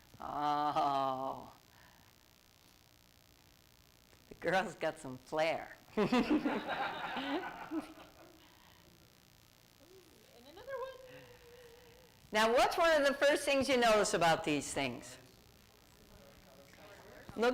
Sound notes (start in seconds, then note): 5.9 laughter